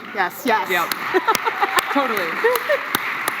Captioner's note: applause